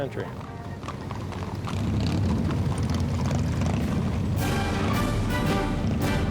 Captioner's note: horse hooves clopping; engine roars; marching band music